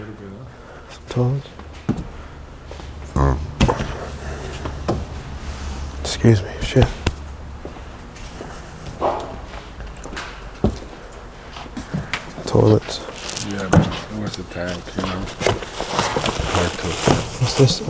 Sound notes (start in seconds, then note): 3.1 burps; 9.1 thump